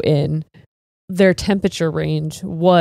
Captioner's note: none